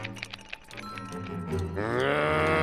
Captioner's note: growls